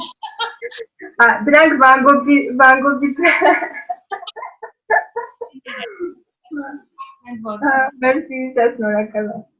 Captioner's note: laughing; laughing